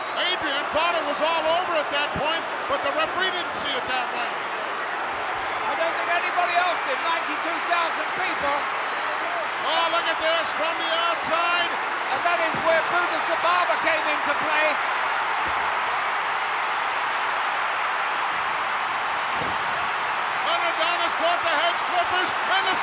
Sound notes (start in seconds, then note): 15.2 crowd cheering